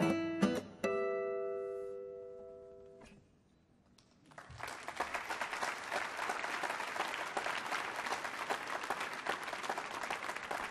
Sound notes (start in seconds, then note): 4.1 applause